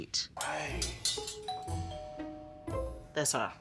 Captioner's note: playful music; doorbell rings